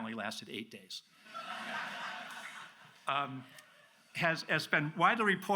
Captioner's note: audience laughs